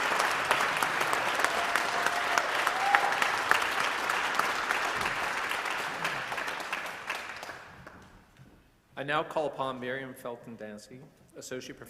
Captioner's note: applause